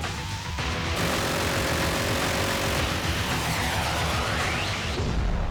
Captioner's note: rapid gunfire